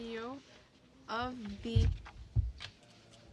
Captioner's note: speaking French